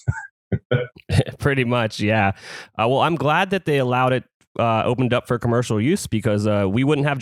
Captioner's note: laughs